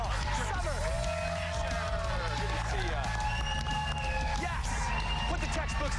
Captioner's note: applause